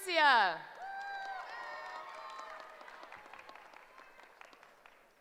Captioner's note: cheering